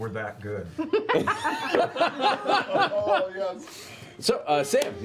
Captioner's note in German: Gelächter